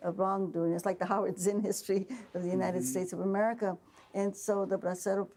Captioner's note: laughing